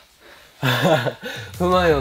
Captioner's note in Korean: 웃음 웃음